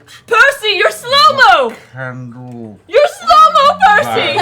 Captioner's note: slow-mo voice